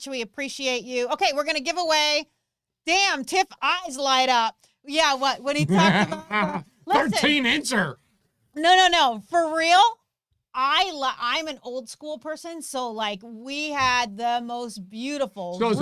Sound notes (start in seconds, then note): 5.6 laughs